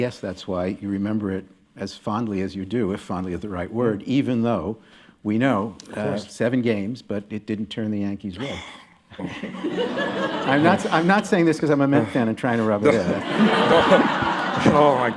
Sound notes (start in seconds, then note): 8.4 Williams sighs, laughter; 12.9 laughter